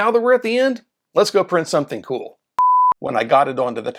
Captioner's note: beep